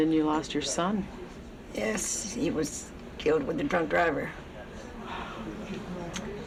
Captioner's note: sighs